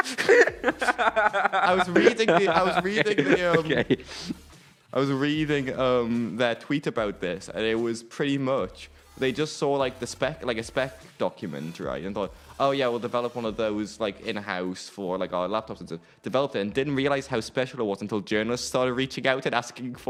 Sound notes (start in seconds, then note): 0.0 laughter